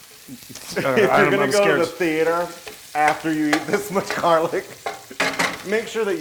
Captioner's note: laugh